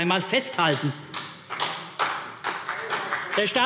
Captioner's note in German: Vereinzelter Beifall CDU - Zurufe